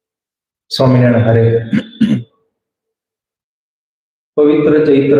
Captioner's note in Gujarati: ગળું સાફ કરે છે